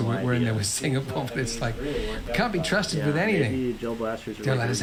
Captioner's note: laughs